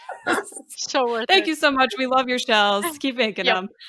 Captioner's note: laughter